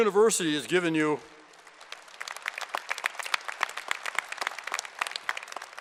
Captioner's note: applause